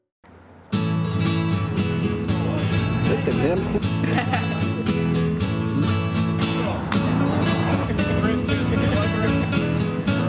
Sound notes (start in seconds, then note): 1.6 upbeat music; 3.0 woman laughs